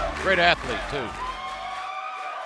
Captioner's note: fans chanting